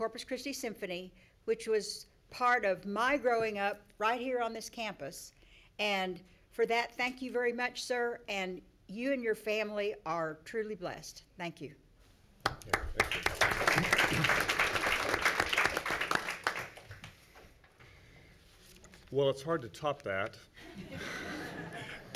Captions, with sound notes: Corpus Christi Symphony which was part of my growing up right here on this campus and for that, thank you very much, sir and you and your family are truly blessed, thank you. (applause) - Well, it's hard to top that.